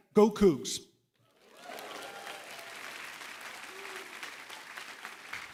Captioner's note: cheering, applause